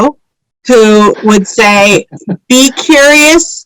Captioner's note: laughs